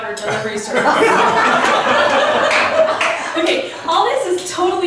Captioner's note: laughs